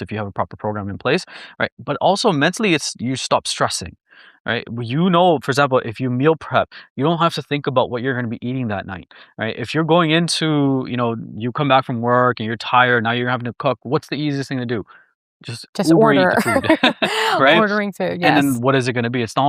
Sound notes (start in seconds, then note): 15.8 laughs